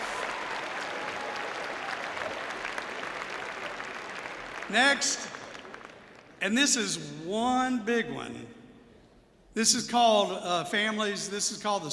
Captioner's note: applause